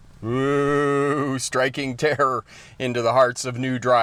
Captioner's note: laughs